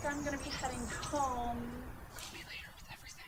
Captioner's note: whispering